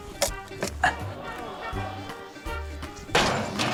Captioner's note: wood cracks; audience exclaims; clang!